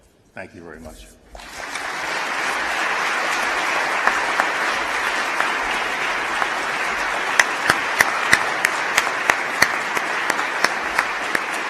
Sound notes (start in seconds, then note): 1.3 applause